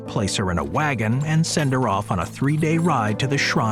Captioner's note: carriage rattling